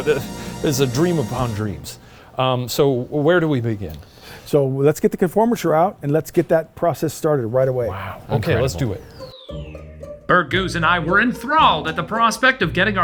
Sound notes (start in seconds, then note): 8.4 playful music; 9.7 scene whooshing